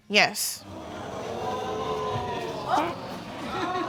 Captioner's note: audience gasps